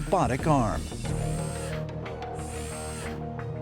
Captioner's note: electronic whirring